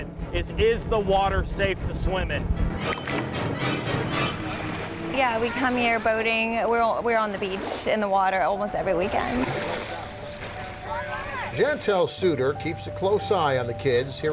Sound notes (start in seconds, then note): 9.8 splashing; 10.7 children shouting